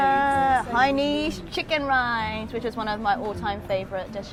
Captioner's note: excited humming